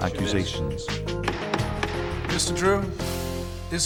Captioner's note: gavel banging